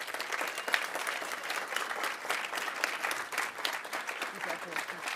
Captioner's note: audience applauding